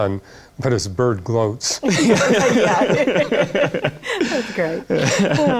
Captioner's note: laughter